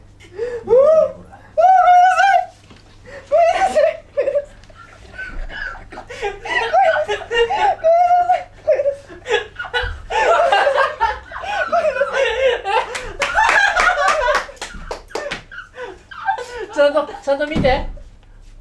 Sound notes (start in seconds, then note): 9.2 everyone laughing in the background